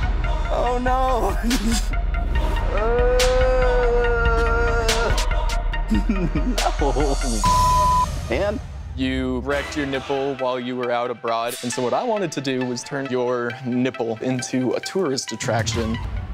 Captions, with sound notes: Oh no. (groans) No. Man. - You've wrecked your nipple while you were out abroad, and so what I wanted to do was turn your nipple into a tourist attraction.